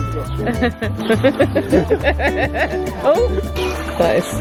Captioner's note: laughing